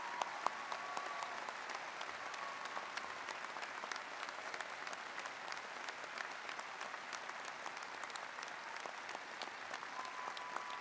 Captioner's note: applause